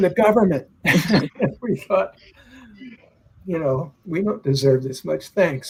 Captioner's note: laughter